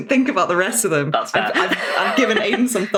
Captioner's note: laughs